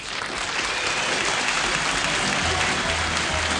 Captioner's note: applause